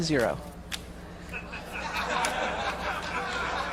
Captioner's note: crowd laughs